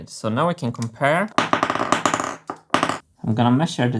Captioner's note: marbles bouncing